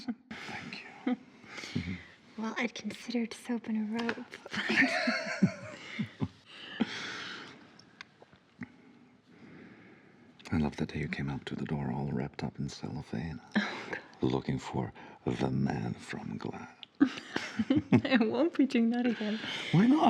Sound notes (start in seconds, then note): 1.6 Maggie laughing; 4.5 both laughing; 17.0 both laughing